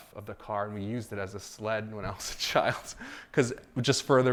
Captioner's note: laughs